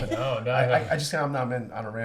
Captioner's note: laughs